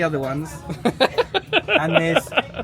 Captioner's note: laughs